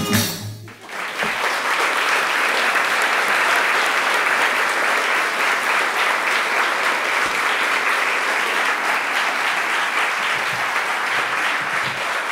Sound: applause

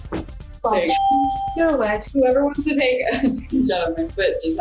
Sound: ding

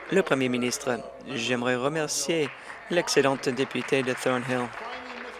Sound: applause

